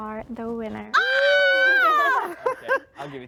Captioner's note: cheering